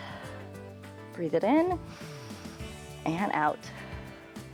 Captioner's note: inhales